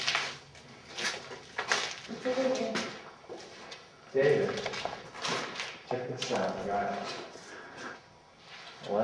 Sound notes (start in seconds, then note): 2.2 murmuring